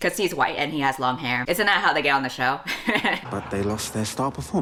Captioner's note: laughs